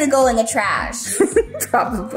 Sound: laughs

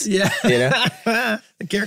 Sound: group laughing

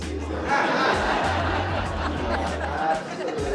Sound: laughter

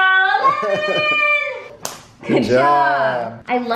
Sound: laughing

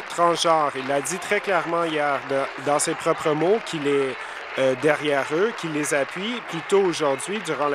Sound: applause

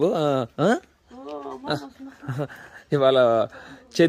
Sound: speaking in foreign language

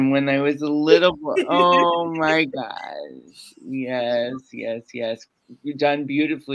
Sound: laughs

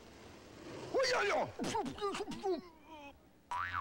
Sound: yelling

